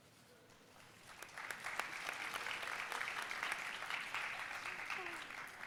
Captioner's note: audience applauding